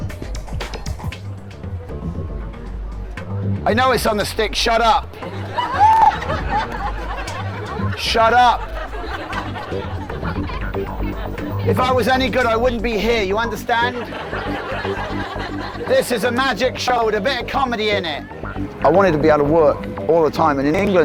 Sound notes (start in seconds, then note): 5.2 audience laughing